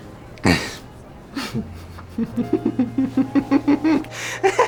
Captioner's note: Joker grunts; Joker laughs maniacally